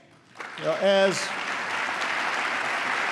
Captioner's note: applause